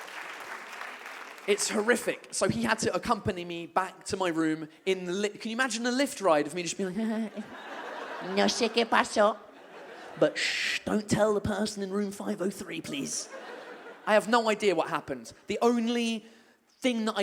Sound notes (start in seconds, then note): 7.2 laughs awkwardly